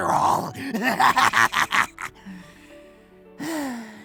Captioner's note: shorter maniacal laugh